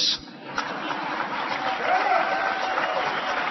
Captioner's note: applause